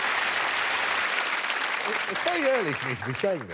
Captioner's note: applause